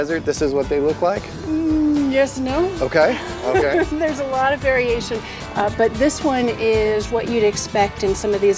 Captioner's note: laughs